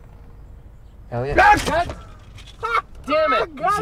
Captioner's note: laughing; screaming